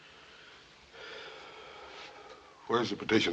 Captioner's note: Hoss sighs